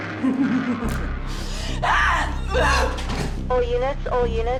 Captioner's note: laughing